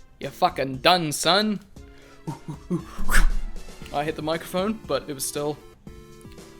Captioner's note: grunting